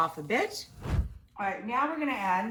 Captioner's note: scene whooshing